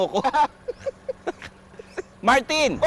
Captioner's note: both laughing